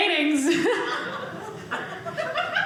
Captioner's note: audience laughing